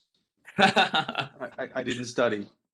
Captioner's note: laughs